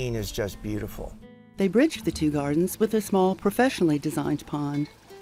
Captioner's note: voiceover